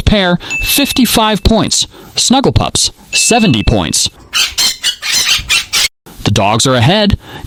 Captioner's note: squawk